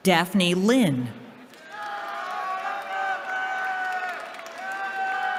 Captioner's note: cheering